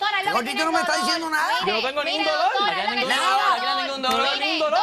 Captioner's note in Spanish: todos gritan a la vez